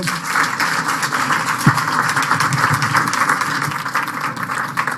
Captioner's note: applause